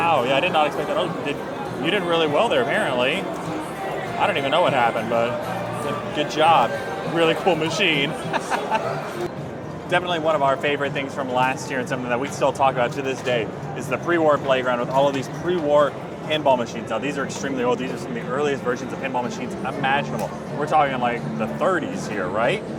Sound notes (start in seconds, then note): 8.1 laughs